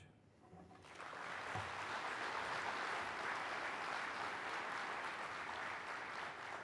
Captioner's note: clapping